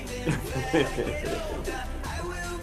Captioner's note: laughs